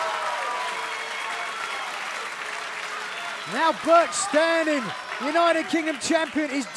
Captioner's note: cheers and applause